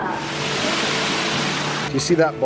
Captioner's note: waterfall rushes